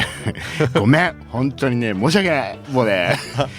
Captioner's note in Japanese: 笑い